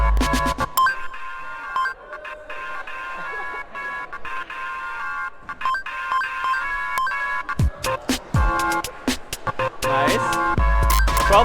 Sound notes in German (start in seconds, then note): 2.0 lachen